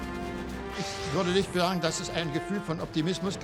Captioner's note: speaking german